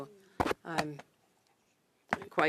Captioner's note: speaking French